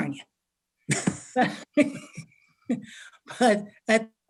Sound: all laughing

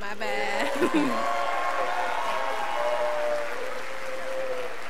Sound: scholars applauding

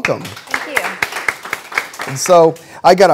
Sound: applause

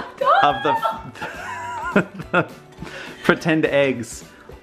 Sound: laughing

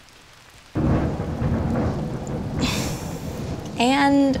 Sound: thunder crashes

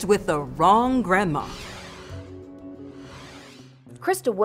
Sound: logo swooshing

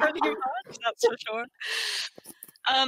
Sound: all laughing

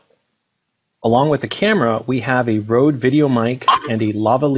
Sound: mic sound

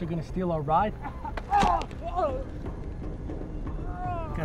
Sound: coughing and yelling

